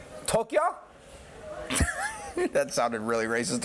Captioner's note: laughs; normal voice